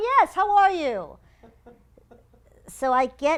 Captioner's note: laugh